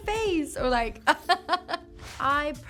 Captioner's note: laughs